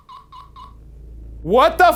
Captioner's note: spirit whispering; machine beeping